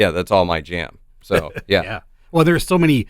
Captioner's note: chuckles